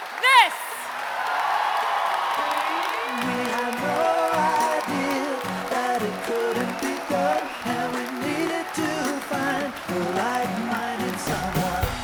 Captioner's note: cheers and Applause